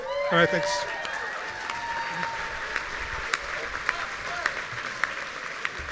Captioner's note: audience cheering